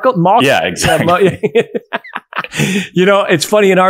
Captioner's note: both laughing